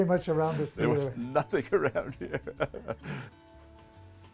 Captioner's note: laughs